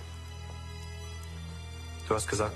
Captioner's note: rain pattering